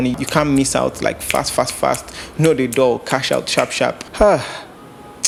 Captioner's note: snap